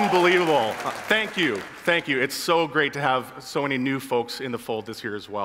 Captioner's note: attendees applauding